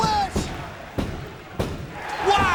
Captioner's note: hand banging